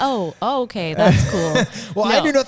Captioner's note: laughing